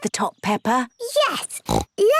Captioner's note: snorts